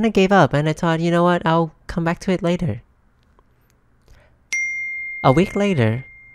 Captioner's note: email Ding